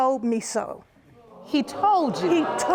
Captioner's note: audience exclaims